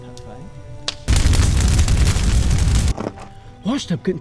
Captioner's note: flames crackling